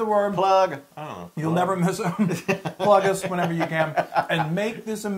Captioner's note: laugh